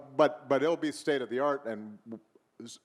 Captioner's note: none